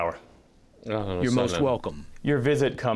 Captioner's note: through translator